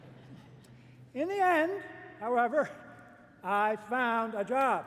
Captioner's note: laughter